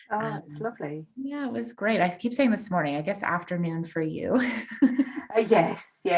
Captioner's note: laughs